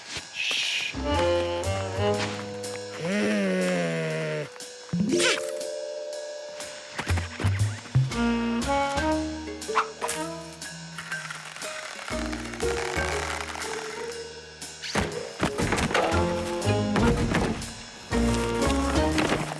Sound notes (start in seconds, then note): 4.8 gasps